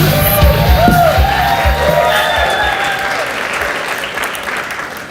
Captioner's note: audience applauds